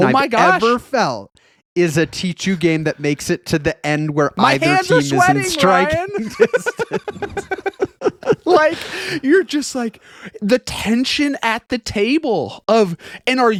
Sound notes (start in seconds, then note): 6.2 laughing